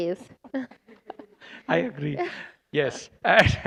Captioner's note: laughter